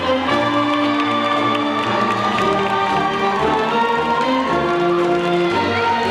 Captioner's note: audience cheering and applauding